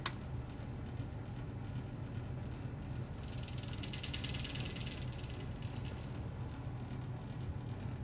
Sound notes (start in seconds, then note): 3.0 heating vent rattles